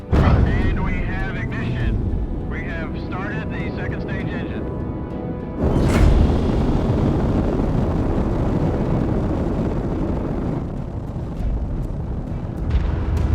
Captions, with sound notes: (engine roaring) And we have ignition. We have started the second stage engine. (pop, then rocket engine roaring) (dramatic music)